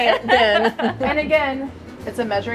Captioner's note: laughing